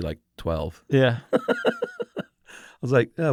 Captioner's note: laughs